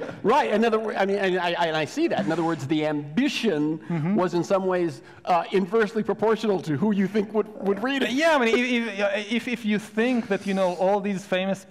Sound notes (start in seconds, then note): 7.6 laughs